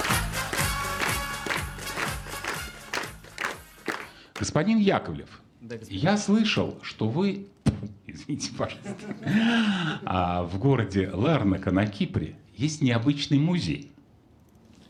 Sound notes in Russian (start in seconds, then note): 8.6 смех